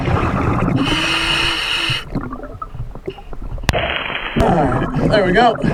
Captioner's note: water burbling; regulating hissing